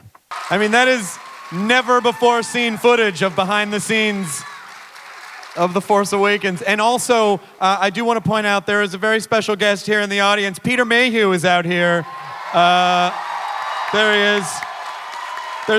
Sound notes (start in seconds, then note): 11.8 audience cheering